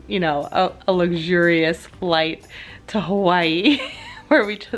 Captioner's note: laughs